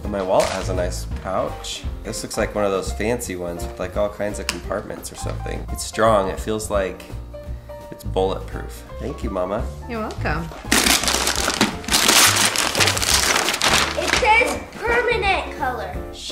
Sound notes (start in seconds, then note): 10.6 ripping paper